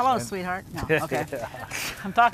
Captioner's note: laughs